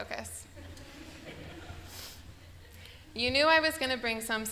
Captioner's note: laughter